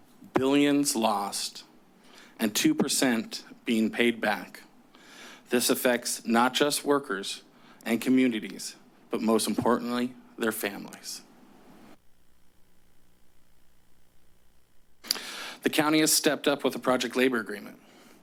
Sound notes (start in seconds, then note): 13.7 pause